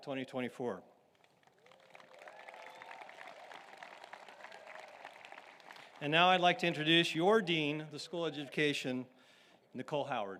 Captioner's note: applause